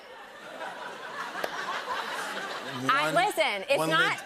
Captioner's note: laughter